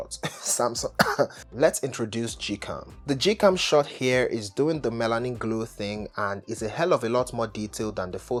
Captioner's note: coughs